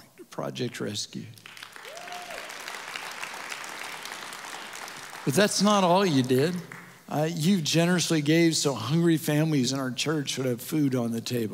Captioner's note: audience Applause